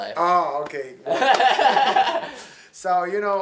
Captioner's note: laughs